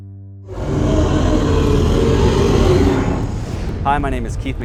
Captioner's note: gorilla roaring